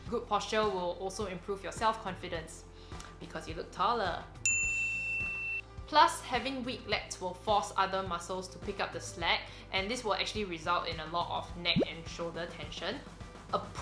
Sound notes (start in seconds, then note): 4.5 bell rings